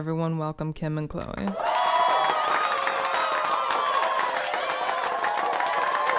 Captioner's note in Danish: publikum hepper og klapper